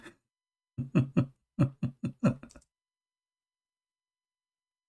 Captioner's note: Ketawa